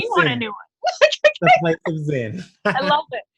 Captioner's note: laughs; chuckles